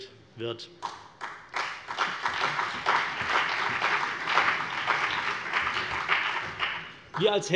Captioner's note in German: Beifall CDU und BÜNDNIS 90/DIE GRÜNEN